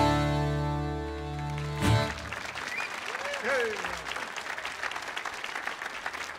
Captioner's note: audience applauding